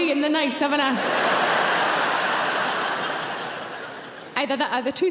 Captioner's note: audience laughing